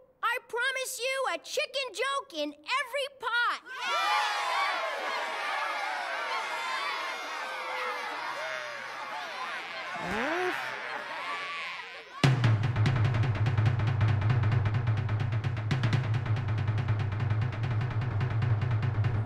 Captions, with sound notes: I PROMISE YOU A CHICKEN JOKE IN EVERY POT! (EVERYONE CHEERS WILDLY) (DRUM ROLL)